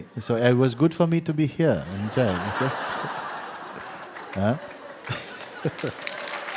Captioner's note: laughter